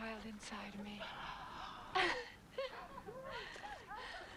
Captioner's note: Tracima gasps